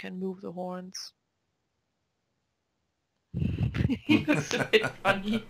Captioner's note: both laugh